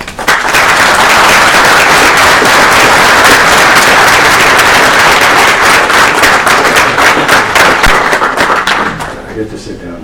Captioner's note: applause